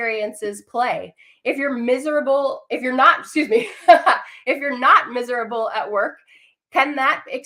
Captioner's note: laughter